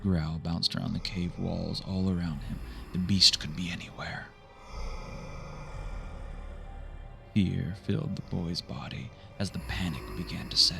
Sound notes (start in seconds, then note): 4.6 monstrous growls